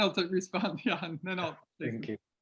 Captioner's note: laughs